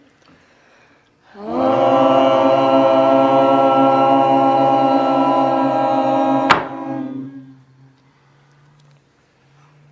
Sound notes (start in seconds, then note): 1.3 all toning; 6.4 hammer strike